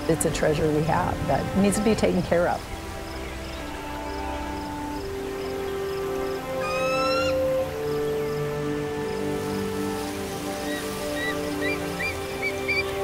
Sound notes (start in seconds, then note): 6.4 eagle calling